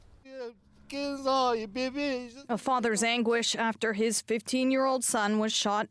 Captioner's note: speaking French